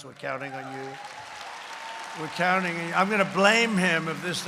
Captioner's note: applause